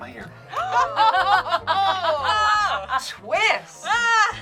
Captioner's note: group gasps